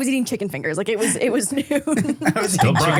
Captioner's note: laughs